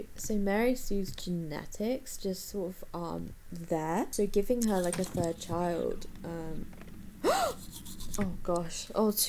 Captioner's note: gasps